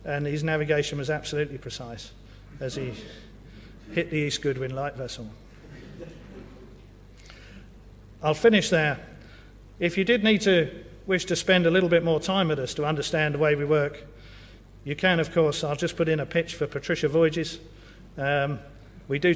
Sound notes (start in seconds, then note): 5.6 laugh